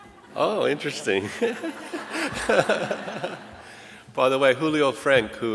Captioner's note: laughs; audience laughing